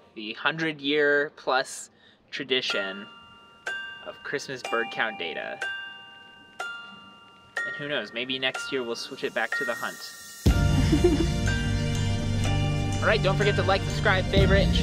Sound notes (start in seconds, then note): 5.9 bells chime; 10.4 dramatic music; 10.7 giggles